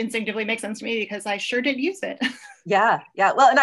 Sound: laughs

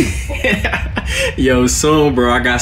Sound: Del laughs

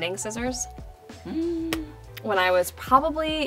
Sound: makeup artist gasps

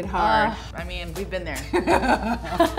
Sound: laughs

